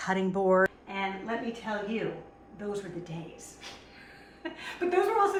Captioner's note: laughs